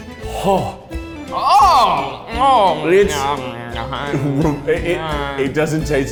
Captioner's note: makes disgusted noises